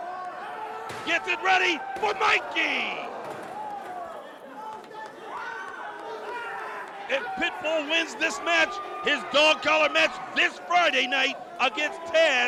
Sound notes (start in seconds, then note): 4.6 crowd cheering; 8.5 crowd cheering